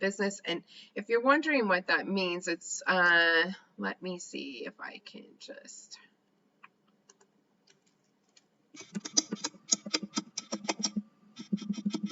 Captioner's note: typing